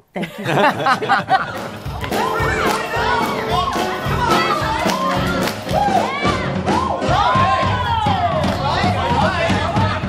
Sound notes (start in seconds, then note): 0.1 laughter; 0.7 big band music plays; 5.5 dancers cheering